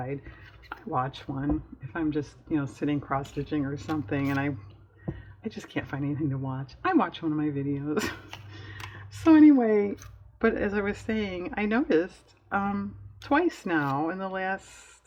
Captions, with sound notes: watch one, if i'm just sitting cross stitching or something and i just can't find anything to watch i watch one of my videos (laughs) so anyway but as i was saying, i noticed twice now in the last